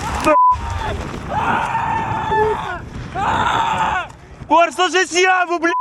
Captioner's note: sound of gunshots; man screaming